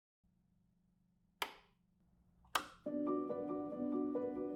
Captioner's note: switches clicking; whimsical music